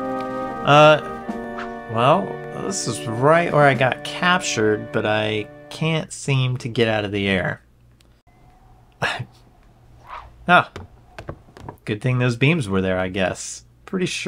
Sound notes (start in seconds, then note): 9.0 exasperated sigh